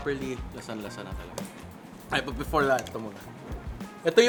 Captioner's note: none